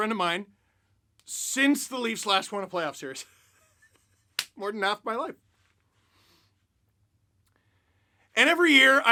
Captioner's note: laughter